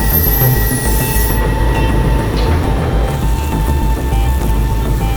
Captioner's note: tow truck squeaking; upbeat intense music